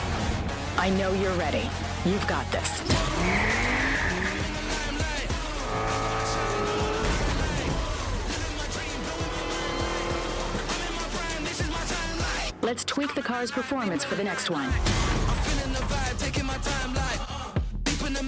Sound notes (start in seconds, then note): 0.1 rock music playing; 5.1 tires screeching; 8.9 rap music playing